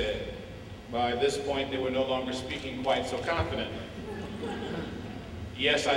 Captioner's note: laughter